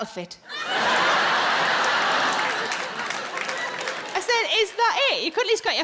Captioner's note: audience laughing